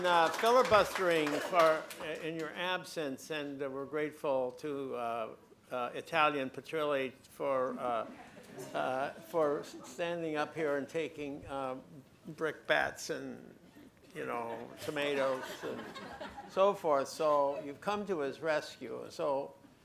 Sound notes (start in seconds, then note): 14.6 laughter